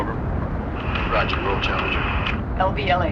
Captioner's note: man On Radio